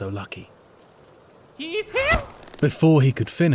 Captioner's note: yelling